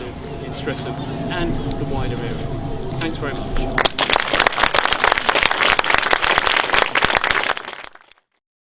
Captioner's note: applause